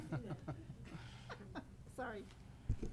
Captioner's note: laughing